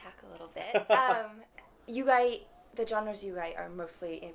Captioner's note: laughter